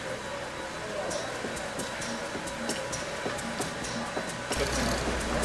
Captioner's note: upbeat music; wheels spinning